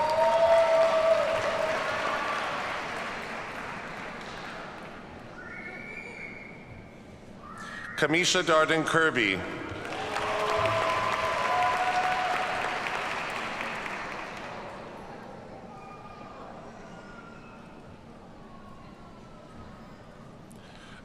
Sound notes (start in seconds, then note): 0.0 audience cheers and applauds; 9.7 audience cheers and applauds